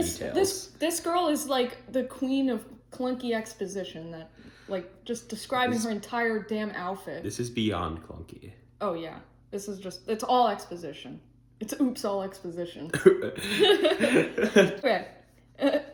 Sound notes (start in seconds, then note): 13.0 laughing